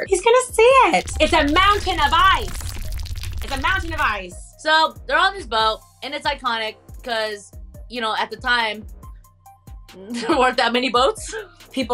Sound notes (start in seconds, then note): 1.0 iceberg rumbling